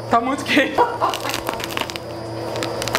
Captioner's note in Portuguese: risos